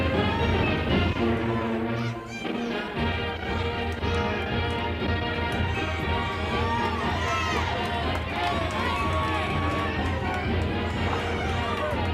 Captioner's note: crowd cheering